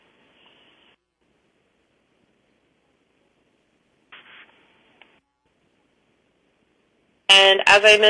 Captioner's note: pause